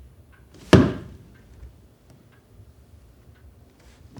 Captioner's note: foot stomps